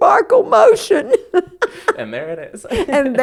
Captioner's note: laughter